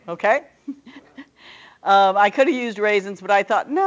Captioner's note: male laughter